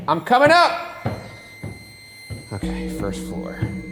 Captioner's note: eerie ringing